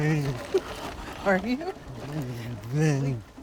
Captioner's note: laughs